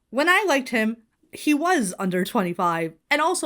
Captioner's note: none